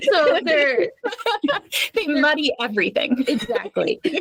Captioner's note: laughing